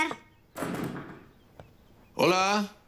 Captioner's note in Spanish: Sonido al cerrar la puerta